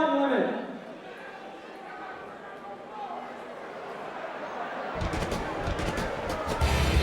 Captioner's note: crowd chatter